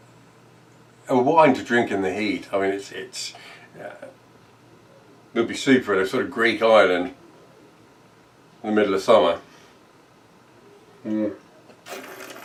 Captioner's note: slurping